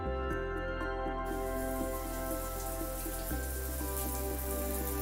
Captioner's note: water splashing